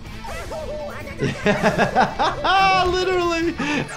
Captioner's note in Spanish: el doctor se ríe